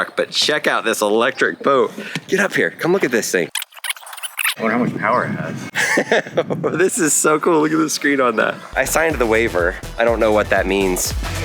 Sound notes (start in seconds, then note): 3.6 fast forward sounds